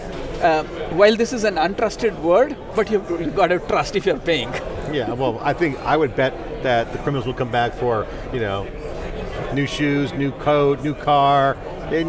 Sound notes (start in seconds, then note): 4.4 chuckles